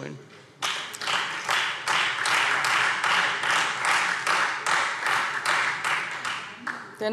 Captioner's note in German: Beifall